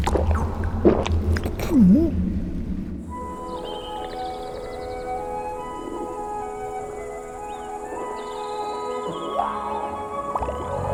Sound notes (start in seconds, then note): 0.0 splosh; 0.0 gulps; 3.0 calm music; 3.2 birds and insects chirping